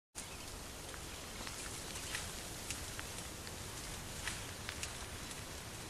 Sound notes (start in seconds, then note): 0.1 branches and leaves crackling